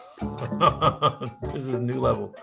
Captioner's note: laughter